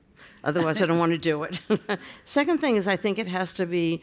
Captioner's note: laughter